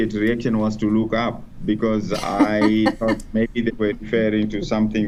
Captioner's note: laughs